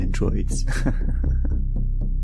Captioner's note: 09 laughs